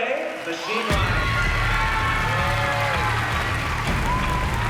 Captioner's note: cheering and applause